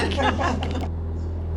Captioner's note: laughing